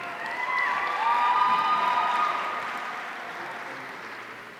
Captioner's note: audience cheering